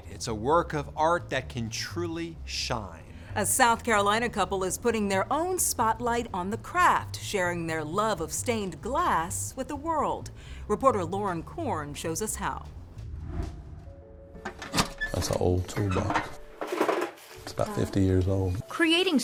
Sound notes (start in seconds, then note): 14.3 gentle music; 15.7 toolbox squeaks